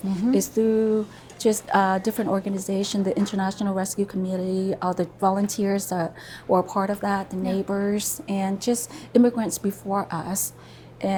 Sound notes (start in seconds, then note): none